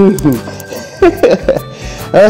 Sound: laughs

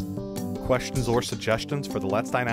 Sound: voiceover

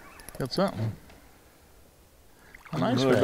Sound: fish splashing

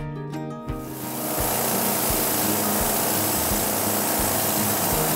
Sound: engine humming

